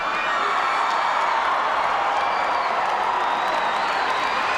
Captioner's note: crowd cheers